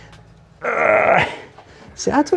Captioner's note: groaning